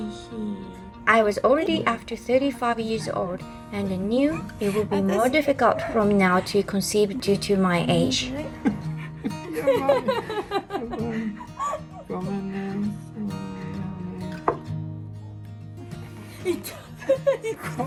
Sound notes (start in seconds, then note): 8.4 nervous Laughter; 9.0 scared Laughter